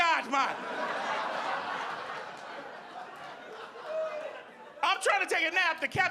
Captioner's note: audience laughing